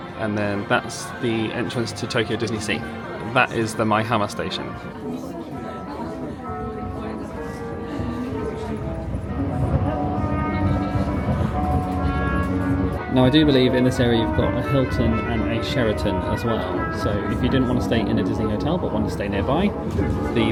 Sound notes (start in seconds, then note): 6.0 holiday music; 6.0 passengers chatting